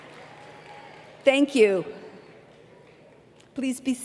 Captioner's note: applause